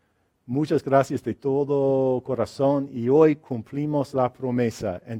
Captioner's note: speaks in foreign language